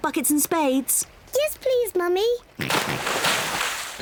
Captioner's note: oinks